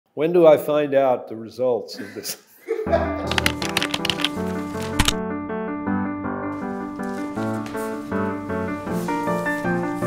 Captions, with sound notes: - When do I find out the results of this? (interviewer laughing) (upbeat music)